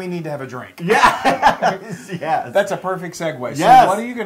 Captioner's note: laugh